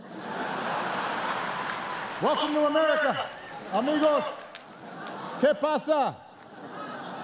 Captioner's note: laughter and applause